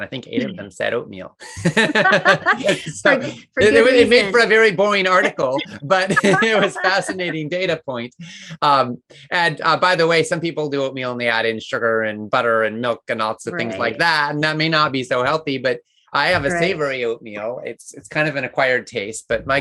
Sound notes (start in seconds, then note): 1.4 both laugh